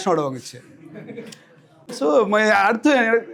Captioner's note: laughter